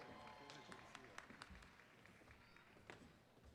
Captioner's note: applause